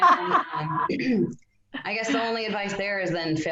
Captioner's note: both laugh; clears throat